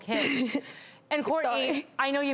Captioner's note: laughs